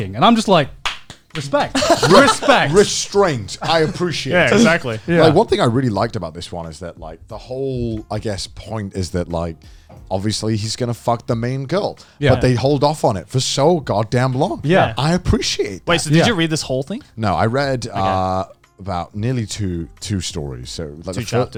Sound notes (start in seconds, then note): 0.8 clapping